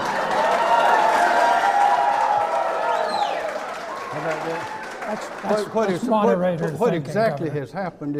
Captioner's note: clapping